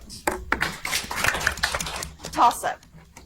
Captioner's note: audience applauds